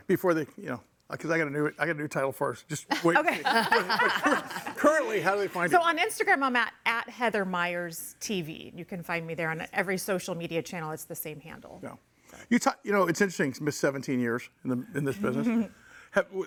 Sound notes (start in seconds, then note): 2.9 all laughing